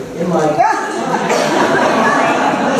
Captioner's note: laughter